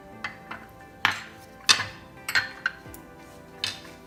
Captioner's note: clinking